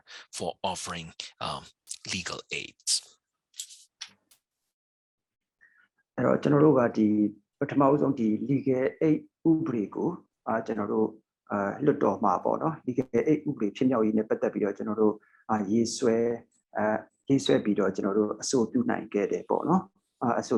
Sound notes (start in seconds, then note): 7.2 speaking burmese